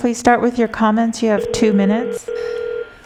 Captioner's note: phone ringing